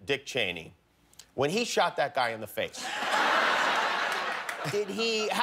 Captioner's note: laughter